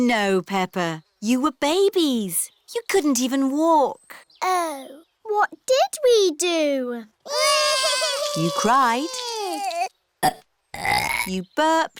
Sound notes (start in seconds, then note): 7.2 both bawling; 10.5 both burping